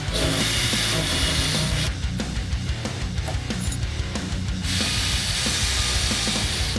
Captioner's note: tools whirring; intense rock music continues